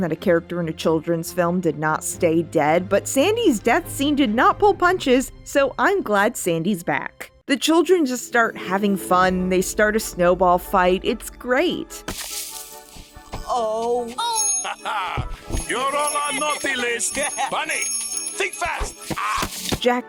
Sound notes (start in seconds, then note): 14.0 North laughs